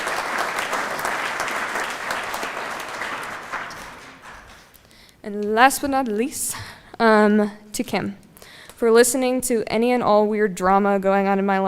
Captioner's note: applause